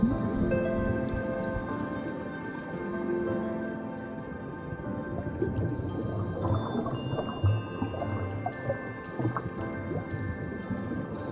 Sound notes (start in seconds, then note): 0.1 underwater breathing; 2.0 bubbles